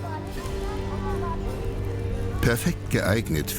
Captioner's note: background chatter